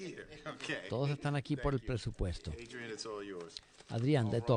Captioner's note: laughter